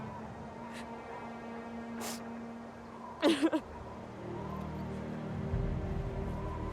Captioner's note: sobbing; somber music